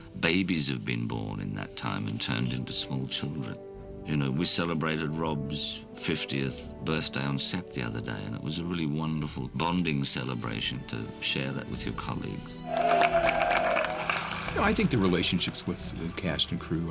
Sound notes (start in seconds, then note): 12.6 cheers and applause